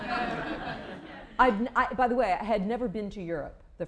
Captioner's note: laughter